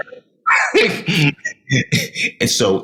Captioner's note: laughing